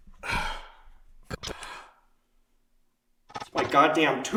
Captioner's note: static crackling